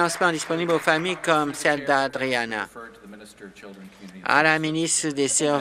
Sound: applause

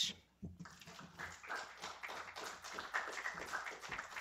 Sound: applause

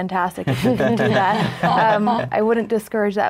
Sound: everyone laughs

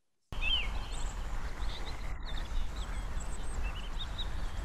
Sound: birds chirping

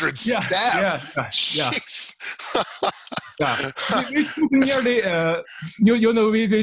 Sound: laughing

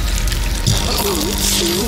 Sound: high voltage shock

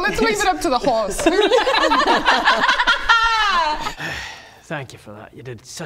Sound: laughs

